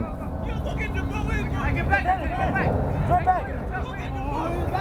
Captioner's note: field chatter